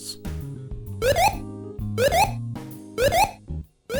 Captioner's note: blooper sounds?